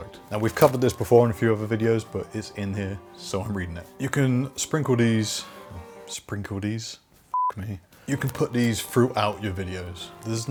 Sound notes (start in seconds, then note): 7.3 beep